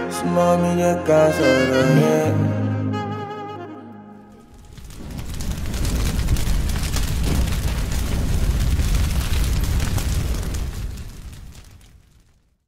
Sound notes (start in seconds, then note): 0.2 singing a foreign language; 4.3 raindrops falling; 7.5 flames roaring and sizzling